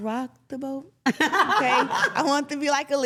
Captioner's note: laughs